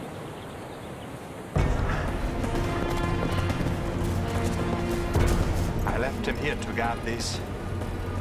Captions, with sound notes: (dramatic orchestral music) (running footsteps) - I left him here to guard this.